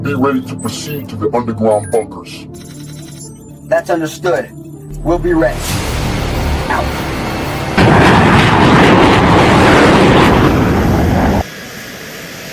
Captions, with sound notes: Be ready to proceed to the underground bunkers. - That's understood, we'll be ready, out. (plane engine roaring)